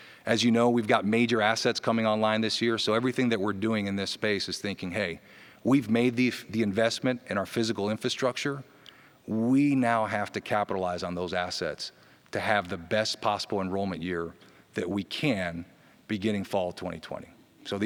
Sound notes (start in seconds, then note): none